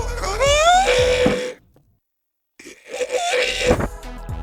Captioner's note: scream